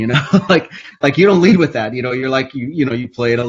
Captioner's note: laughs